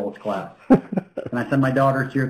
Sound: laughing

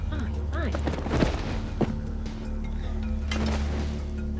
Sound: body thuds

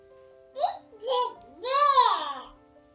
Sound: baby noises

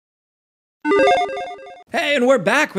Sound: logo beeps

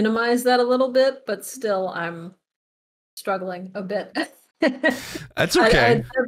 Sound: laughs

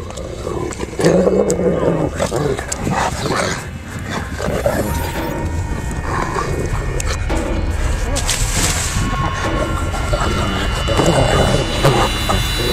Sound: dog growling

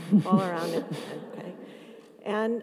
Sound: everyone laughs

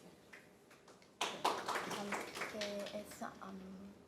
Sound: applause

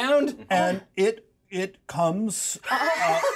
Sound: speaker chuckles

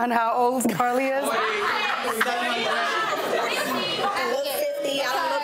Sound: crowd shouting out numbers

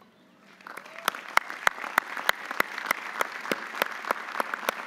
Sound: audience applauding

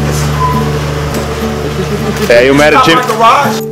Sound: paparazzi Laughs

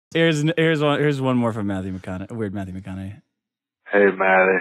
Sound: voicemail

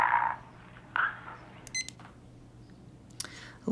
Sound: timer beeps

